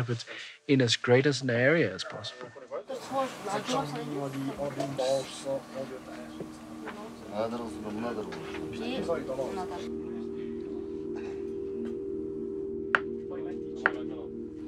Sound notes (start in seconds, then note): 5.0 chatter